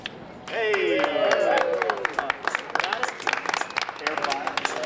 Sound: applause

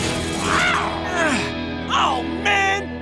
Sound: roaring; grunting

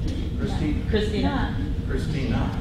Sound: voiceover

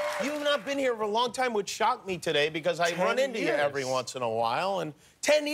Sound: cheers and applause

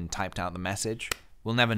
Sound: clap

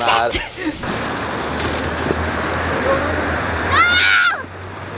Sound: loud traffic

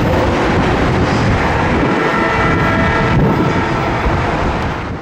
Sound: faint Horn

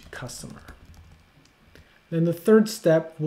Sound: keyboard tapping

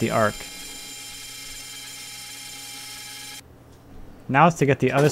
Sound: saw buzzing

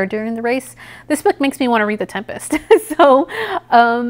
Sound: giggles

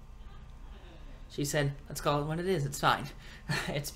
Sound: laughs

